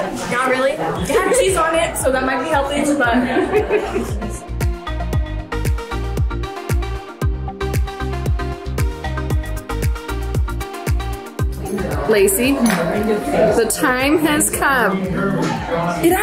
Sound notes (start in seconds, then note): 2.7 laughs; 4.7 bright upbeat music